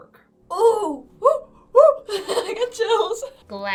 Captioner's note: laughs